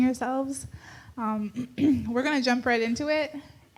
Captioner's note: clears throat